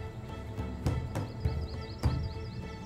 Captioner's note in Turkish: Kuş cıvıltısı sesleri